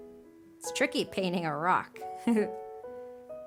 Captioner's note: chuckles